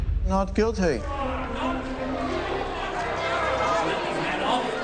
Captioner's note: crowd clamoring